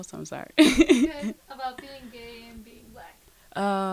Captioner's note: laughs